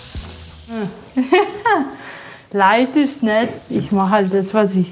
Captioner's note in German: Sie lacht